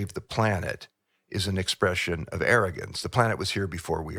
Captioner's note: laughs